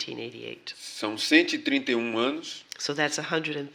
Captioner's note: speaking portuguese